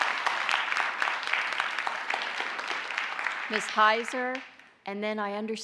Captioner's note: applause